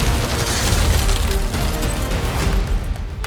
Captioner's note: ice crackling